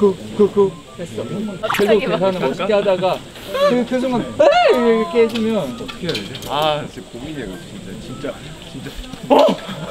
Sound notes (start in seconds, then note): 1.4 cool rescue and not-so-cool screams